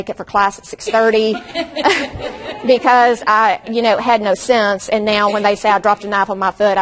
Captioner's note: audience laughs